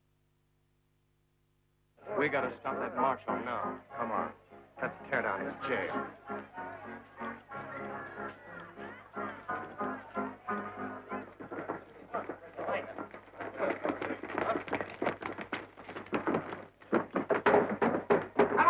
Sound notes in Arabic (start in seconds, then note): 11.6 ثرثرة رعاة البقر; 17.0 طرق على الباب